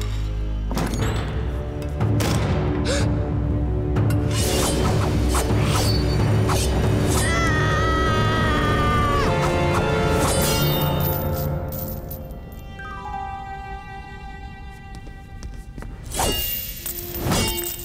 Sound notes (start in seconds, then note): 2.4 gasping; 7.1 screaming